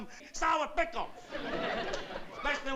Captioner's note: laughter